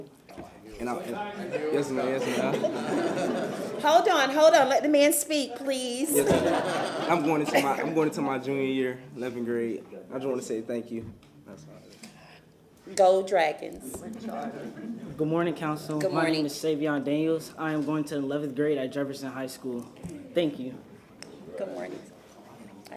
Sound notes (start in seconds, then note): 8.4 laughter